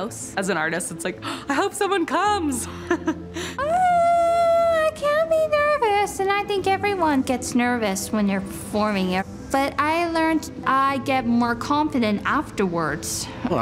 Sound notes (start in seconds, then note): 1.2 gasp; 2.7 chuckles